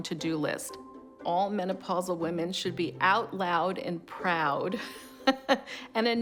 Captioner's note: laughs